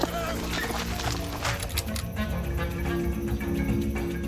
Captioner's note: gun cocks